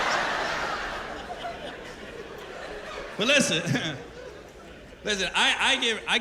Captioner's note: laughter